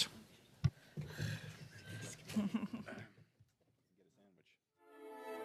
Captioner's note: laughter